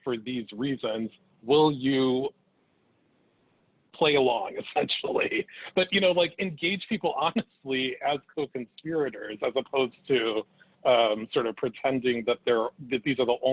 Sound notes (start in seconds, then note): 7.5 chuckles